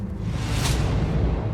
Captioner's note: airplane rumbling